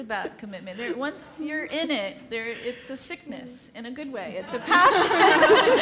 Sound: laughs

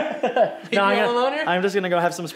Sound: laughs

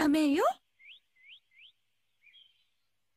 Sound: birds chirping in the distance

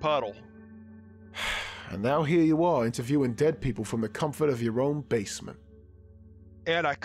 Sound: sighs

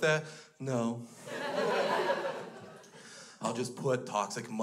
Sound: crowd laughs

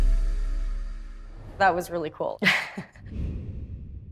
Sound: chuckles

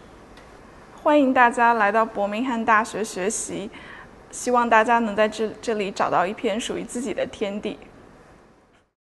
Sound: in mandarin

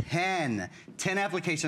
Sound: counting

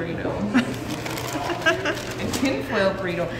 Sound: laughs

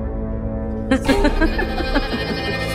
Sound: laughing

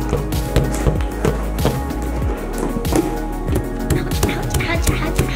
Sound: balloons squeak; balloon thuds dully

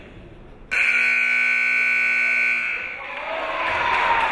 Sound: timer buzzes

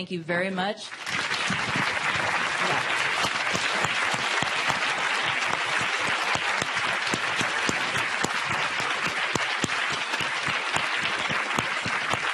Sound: applause

